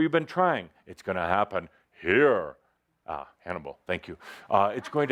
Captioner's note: uses a big voice